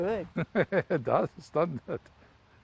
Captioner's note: laughs